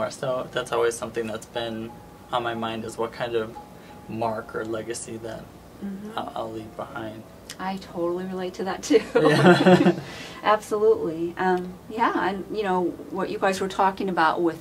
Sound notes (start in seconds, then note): 9.0 they laugh